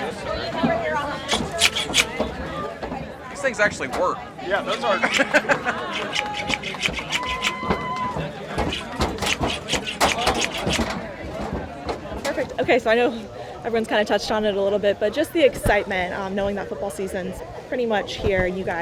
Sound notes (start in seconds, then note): 1.2 scissors cutting air; 4.9 person laughs; 6.3 scissors cutting air; 9.3 footsteps on bleachers; 9.3 people chatting